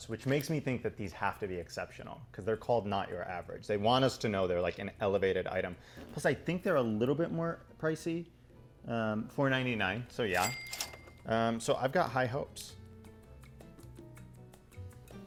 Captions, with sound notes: which makes me think that these have to be exceptional, 'cause they're called, "Not Your Average". They want us to know they're like an elevated item. Plus I think they're a little bit more pricey. 4.99, so yeah. (register ka-ching) So I've got high hopes. (upbeat music)